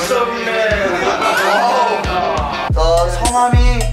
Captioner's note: cheerful